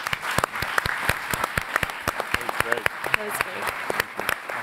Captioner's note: applauding